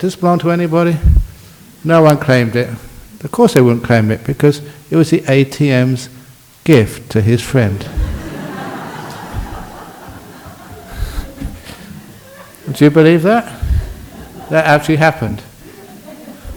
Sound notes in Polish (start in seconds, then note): 7.8 Laughs